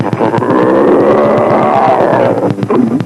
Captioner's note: cringe roaring sound